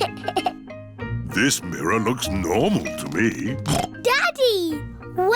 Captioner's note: giggles; snorts